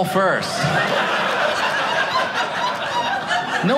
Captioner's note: audience laughing